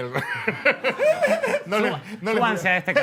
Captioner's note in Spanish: todos ríen